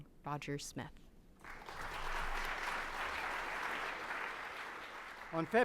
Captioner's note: audience applauds